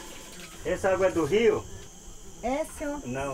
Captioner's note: speaking foreign language